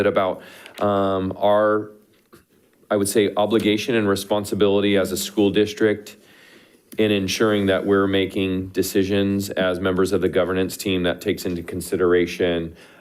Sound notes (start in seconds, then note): none